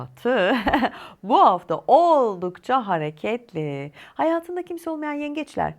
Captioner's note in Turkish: kahkaha